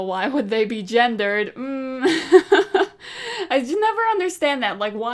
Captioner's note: hums and laughs